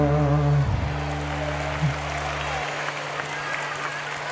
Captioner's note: applause